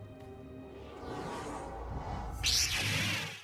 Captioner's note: lightsaber sound